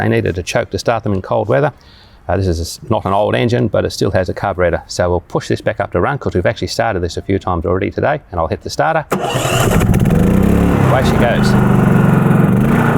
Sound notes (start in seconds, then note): 9.1 engine starting